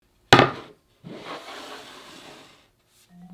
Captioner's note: board sliding